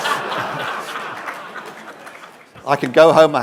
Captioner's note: laughter